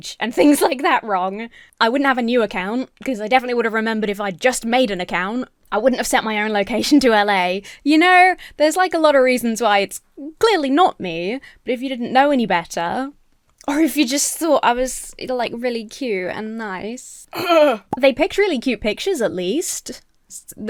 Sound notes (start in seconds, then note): 17.3 clears throat